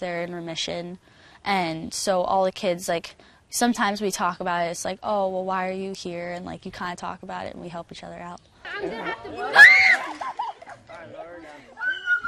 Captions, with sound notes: And so all the kids like, sometimes we talk about it it's like, oh, well, why are you here? And like you kinda talk about it and we help each other out. (giggling) Ahh! (screaming)